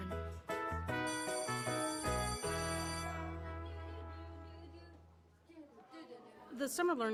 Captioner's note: playful music; bell ringing